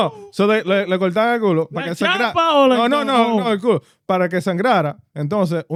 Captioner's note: speaking Foreign Language